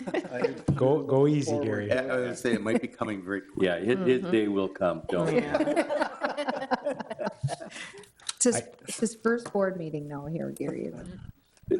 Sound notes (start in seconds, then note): 5.2 laughing